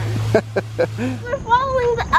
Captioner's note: dad laughing